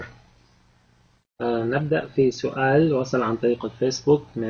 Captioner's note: speaking Arabic